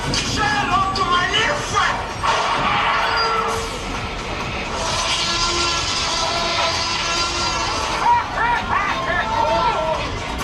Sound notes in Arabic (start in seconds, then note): 4.7 صراخ تي ريكس; 8.4 شخص يضحك